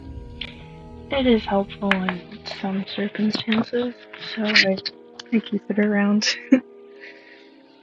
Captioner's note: laughs